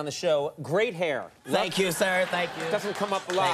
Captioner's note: audience laughing